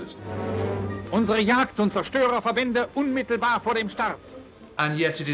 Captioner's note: speaking German